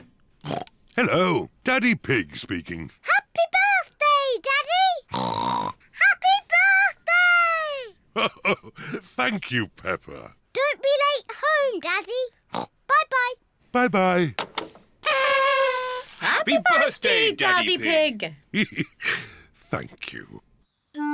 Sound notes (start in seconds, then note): 0.4 oinks; 5.1 oinks; 8.1 chuckles; 12.5 oinks; 15.0 kazoos trumpet; 18.5 chuckles